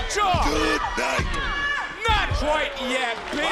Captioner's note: palm pounding